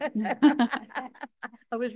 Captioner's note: all laughing